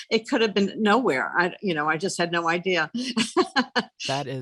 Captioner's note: laughs